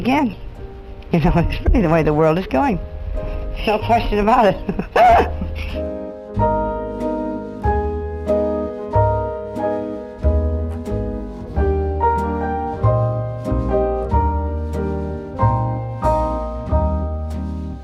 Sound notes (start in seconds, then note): 4.7 laughs